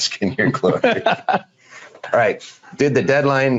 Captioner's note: laughing